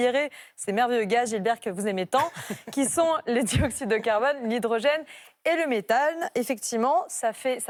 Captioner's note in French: rires